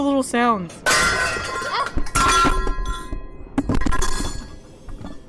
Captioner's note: yelp